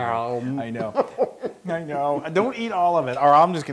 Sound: laugh

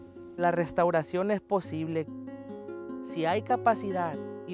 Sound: speaks Spanish

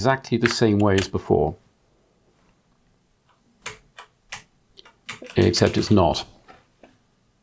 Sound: blank Audio

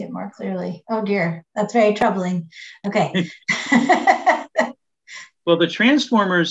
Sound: laughs

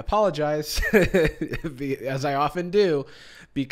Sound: chuckles

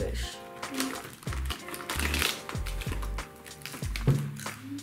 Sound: bag crinkling

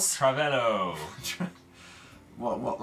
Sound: snickers

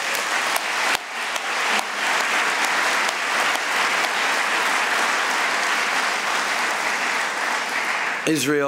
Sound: applause

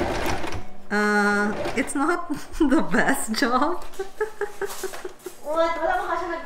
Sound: nervous laugh

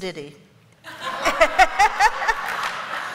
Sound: laughter

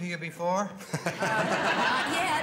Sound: laughter

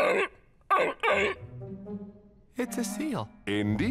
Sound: barking

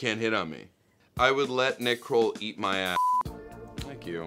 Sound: beep

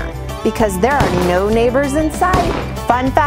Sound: gun shots

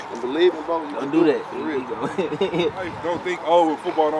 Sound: laughs

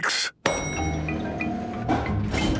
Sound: elevator dings

